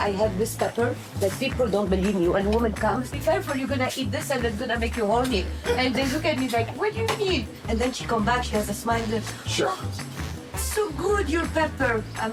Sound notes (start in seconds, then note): 9.5 moans